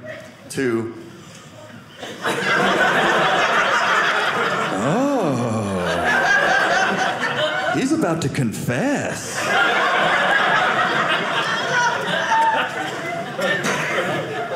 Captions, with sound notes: To "Oh, he's about to confess." (audience laughing)